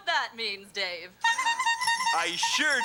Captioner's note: horn tooting